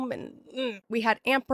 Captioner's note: groan